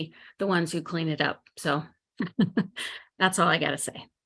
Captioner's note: chuckles